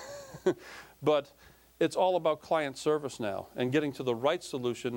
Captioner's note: laughing